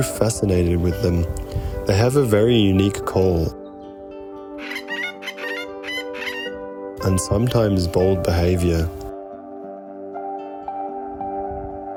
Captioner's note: Currawong call